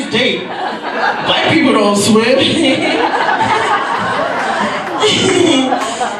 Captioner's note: laughs